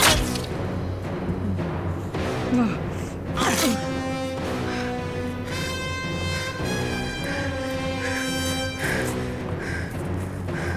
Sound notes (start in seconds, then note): 0.0 knife plunges; 0.1 Rachel grunts; 3.4 knife plunges; 7.2 Rachel breathes heavy